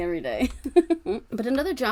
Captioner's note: laughing